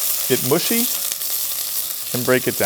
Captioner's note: pan sizzling